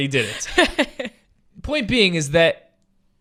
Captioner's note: laughing